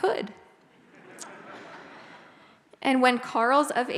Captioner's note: audience laughs